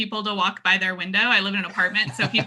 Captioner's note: laughs